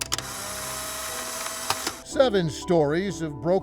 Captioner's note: camera snapping